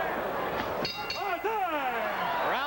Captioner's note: bell rings